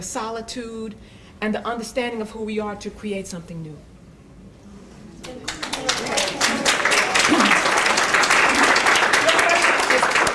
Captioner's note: applause